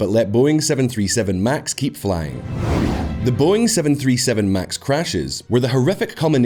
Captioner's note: The Boeing 737 MAX crashes